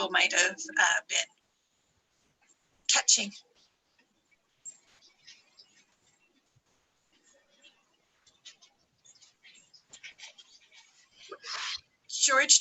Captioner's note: silence